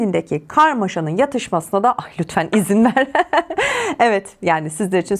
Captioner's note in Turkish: kahkaha